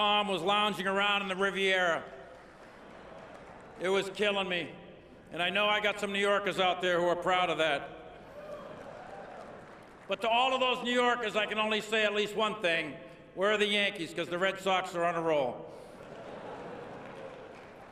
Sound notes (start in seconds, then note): 8.4 cheering and laughter; 17.6 laughter